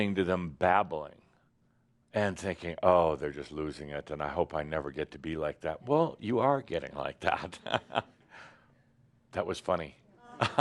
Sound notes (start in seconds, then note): 7.2 chuckles